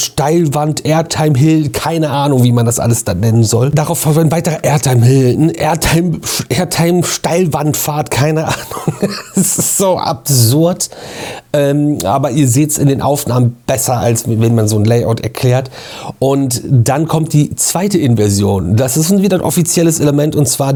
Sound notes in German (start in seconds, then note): 8.4 gelächter